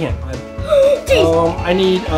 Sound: gasps

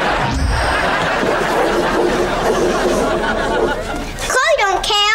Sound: scribbling

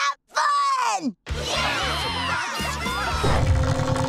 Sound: cheering

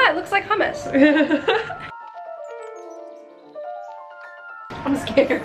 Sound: dentist laughing; relaxing piano music

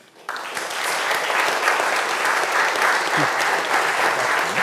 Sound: audience applauds

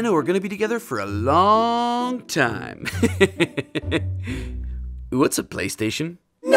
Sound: laughs

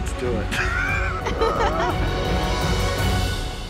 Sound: laughter

